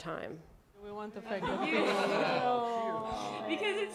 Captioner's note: laughter, groaning